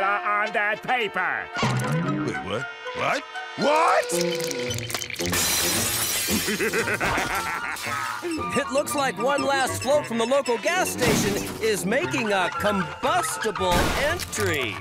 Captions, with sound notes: on that paper. Wait. What? What? What? [shattering] [laughing] It looks like one last float from the local gas station is making a combustible entry.